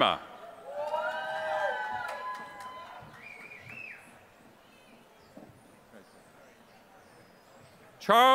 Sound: applause

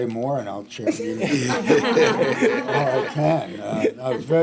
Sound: board members laughing

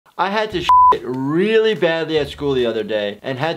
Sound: beeps

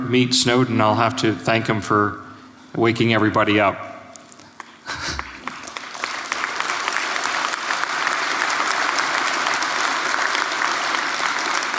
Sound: applause

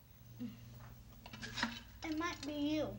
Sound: clanking sound

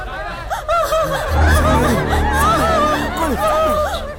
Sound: screams

